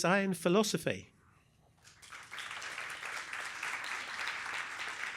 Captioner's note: applause